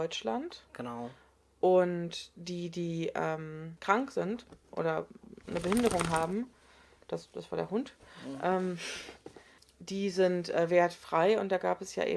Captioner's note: a dog shakes itself